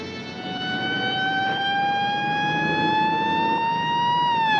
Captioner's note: siren wailing